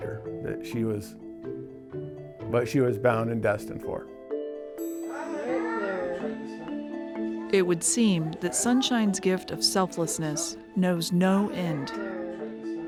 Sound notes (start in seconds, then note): 5.1 children speaking